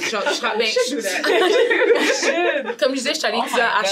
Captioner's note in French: brouhaha